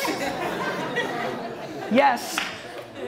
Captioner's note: audience laughter